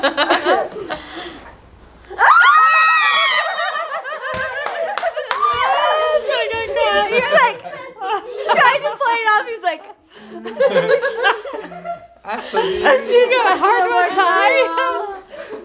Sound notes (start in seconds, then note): 2.2 screaming; 3.0 everyone laughs; 10.2 everyone laughs